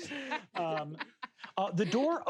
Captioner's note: laughs